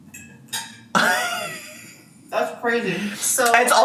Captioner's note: laughs